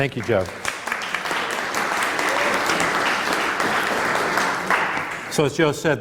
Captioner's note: applause